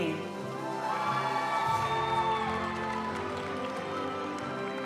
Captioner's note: audience cheering and applauding; graduation music